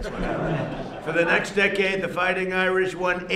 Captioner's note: laughter